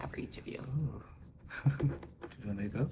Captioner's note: laughing